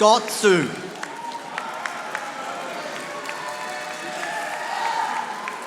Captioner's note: audience applauding